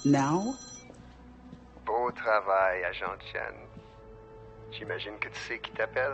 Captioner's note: LaFleur speaking in French